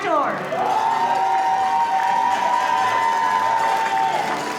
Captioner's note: audience applauding